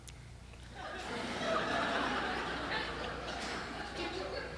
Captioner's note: audience chuckles